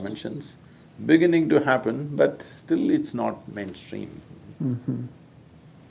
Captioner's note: laughs